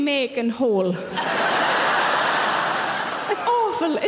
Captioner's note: audience laughing